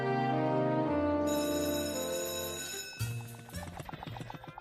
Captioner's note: class bell ringing